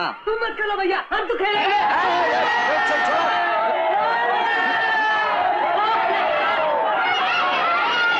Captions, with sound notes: No problem. We'll celebrate it. Leave me alone. (All Cheering)